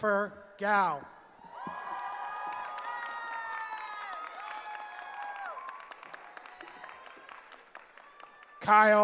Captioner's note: cheering